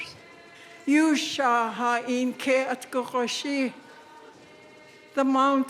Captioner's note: speaking in Lingít